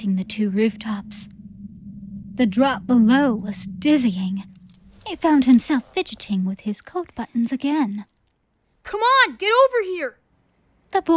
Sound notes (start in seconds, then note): 0.0 ominous wind